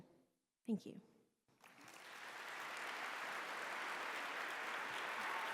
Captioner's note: applause